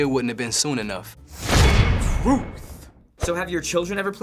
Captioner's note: clang!